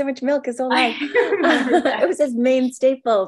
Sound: both laughing

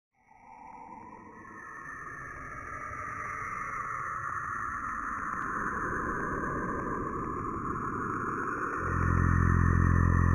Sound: outer Space, ambient, robotic sounds

